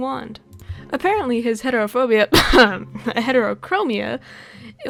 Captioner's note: cough